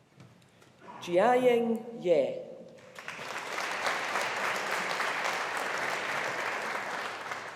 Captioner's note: audience applauding